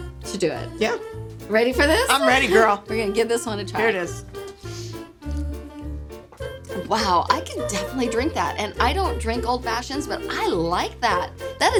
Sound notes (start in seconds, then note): 5.3 gulps